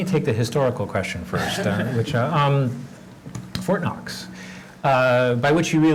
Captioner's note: laugh